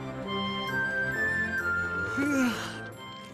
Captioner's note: yawn